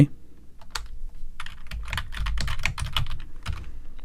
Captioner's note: typing